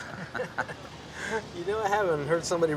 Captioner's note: laughing